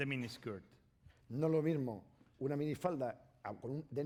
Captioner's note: speaking spanish